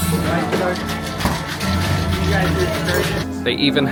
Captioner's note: cocktail shaker rattling